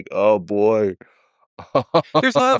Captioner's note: Lex laughing